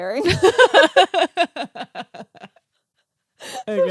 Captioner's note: laughing